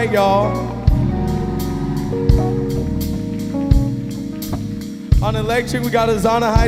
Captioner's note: audience cheering and applauding